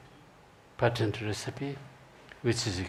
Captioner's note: speaking in foreign language